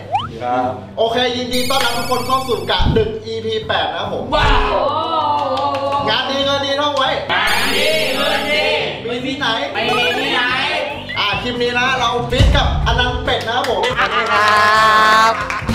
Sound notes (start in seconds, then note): 4.8 cheering; 5.3 applauding; 13.3 applauding